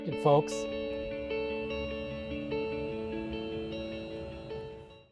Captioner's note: gentle music; car whirs